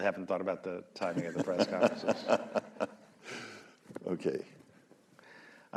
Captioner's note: laughter